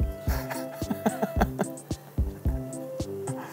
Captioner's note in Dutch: lachen